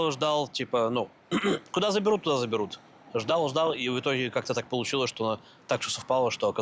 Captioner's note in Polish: chrząka